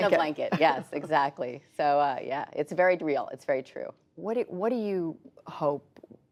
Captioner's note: laughter